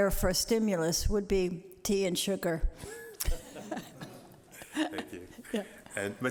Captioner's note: laughter